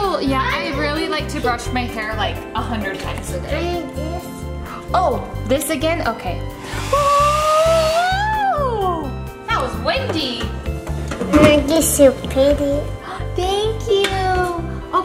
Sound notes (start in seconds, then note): 6.6 hair dryer whirring; 6.6 squealing